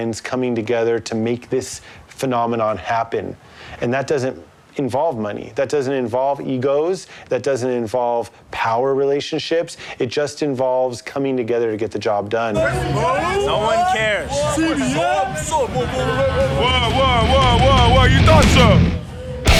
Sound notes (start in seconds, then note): 15.2 group clamoring